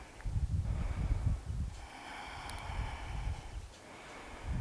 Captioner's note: deep breathing